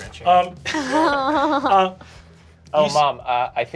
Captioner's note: laughing